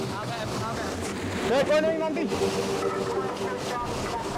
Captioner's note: radio vocalizing; water whooshing